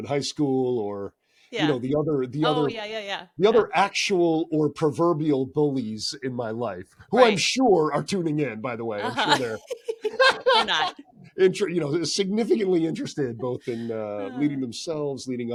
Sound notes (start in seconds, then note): 9.0 laughter